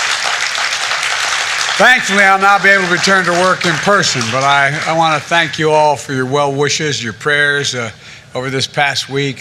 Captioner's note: cheers and applause